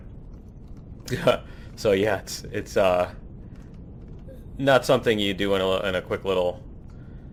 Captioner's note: laughs